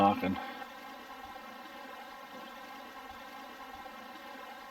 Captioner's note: burbling water